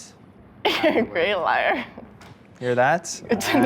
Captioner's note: laughs